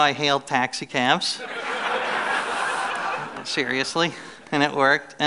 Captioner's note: laughter